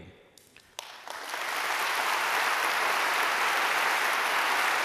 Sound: applause

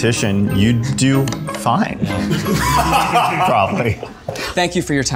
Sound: laughs

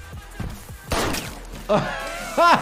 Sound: blood splatters; gunshot fires again; doctor laughs

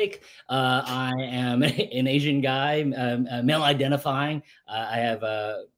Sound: laughs

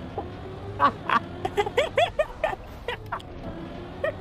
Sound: laughs

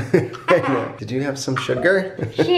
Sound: laughing

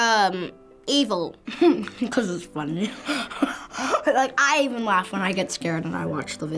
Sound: chuckles

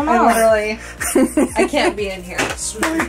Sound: laughs

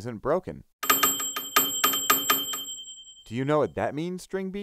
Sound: bell ringing

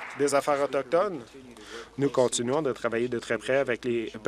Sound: applause

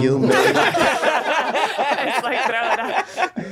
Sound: all laughing

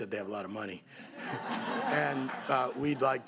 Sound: applause

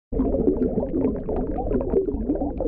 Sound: water bubbling

